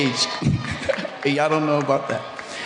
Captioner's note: chuckling